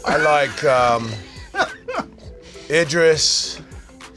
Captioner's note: laughter